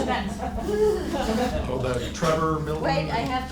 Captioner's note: laughing